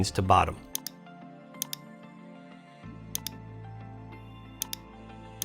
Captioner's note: mouse click sound